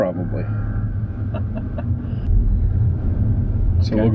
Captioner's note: laughter